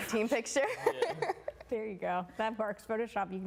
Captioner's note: laughing